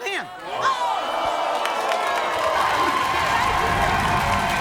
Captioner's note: audience cheers